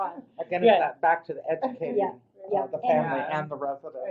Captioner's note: voiceover